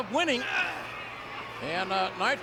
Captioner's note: Nitro grunts